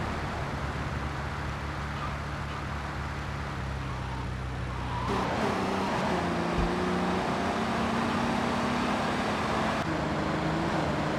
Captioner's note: sirens wailing